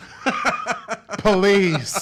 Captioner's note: laughs